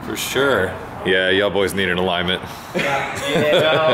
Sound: laughs

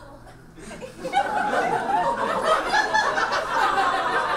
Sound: audience laughs

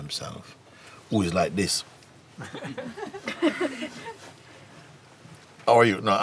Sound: laughter

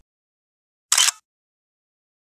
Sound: click!

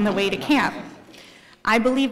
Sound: laugh

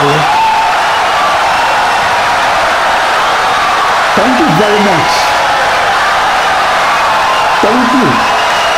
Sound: wild applause and cheering for 17 seconds

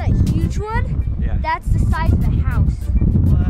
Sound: voiceover

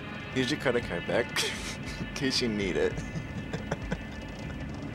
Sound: giggles

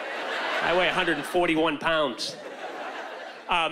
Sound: laughter

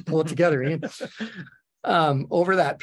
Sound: laughing

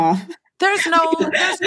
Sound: laughs

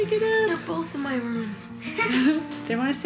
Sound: laughing

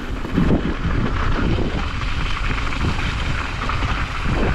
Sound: wind rushing

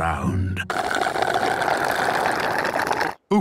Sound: slurping

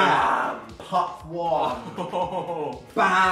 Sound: laughs

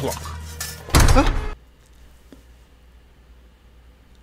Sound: door thuds

